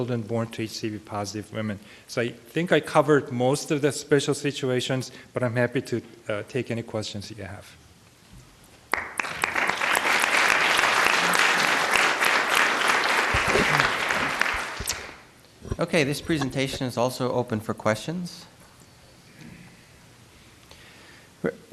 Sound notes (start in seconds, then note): 8.9 applause